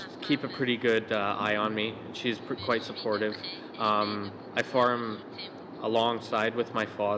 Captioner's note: laughter